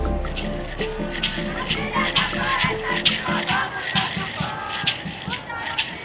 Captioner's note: people chanting in foreign language